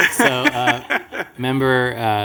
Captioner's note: laughter